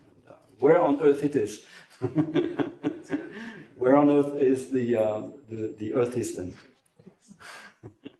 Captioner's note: laughs